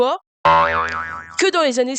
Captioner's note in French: boinggg